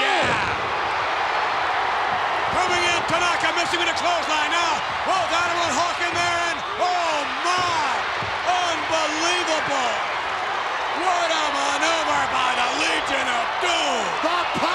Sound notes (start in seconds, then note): 1.8 crowd cheers